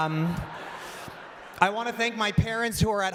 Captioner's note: laughter